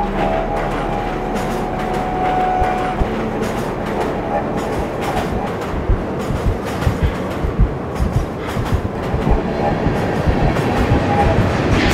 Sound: train rumbles... heart beating

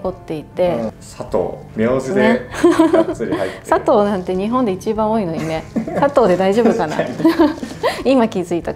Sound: laughs

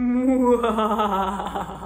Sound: maniacal laughter

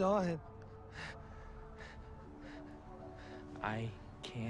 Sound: gasping

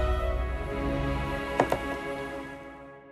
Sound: clicking

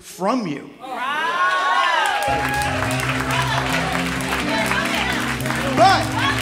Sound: applause

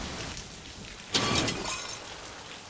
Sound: clattering

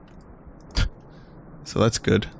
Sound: scoff

